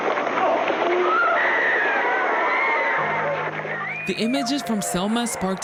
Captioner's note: people screaming